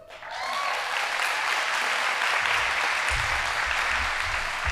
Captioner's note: audience applauding